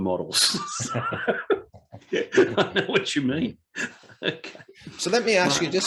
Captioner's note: both laugh